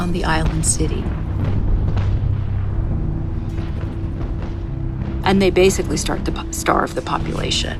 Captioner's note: soundbite of cannons firing